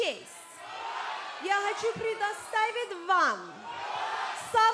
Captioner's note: crowd cheering